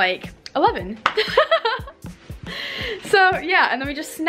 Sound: laughs

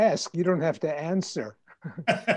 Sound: laughing

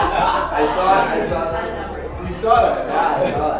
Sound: laughing; voiceover; voiceover

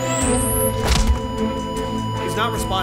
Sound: flatline beeping; paddles powering up

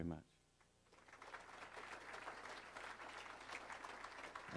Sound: crowd applauding

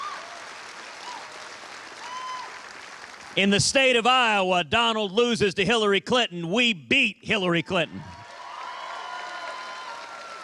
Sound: cheers and applause

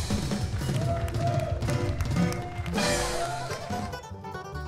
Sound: audience cheering

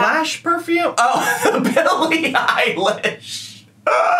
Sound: laughs

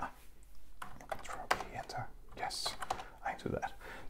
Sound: whispers

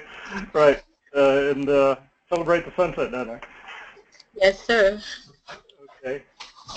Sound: laugh

